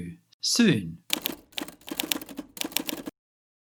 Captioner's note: keyboard typing